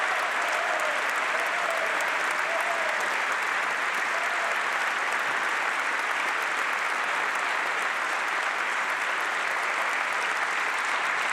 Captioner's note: applause